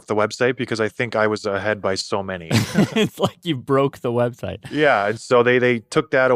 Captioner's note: laughs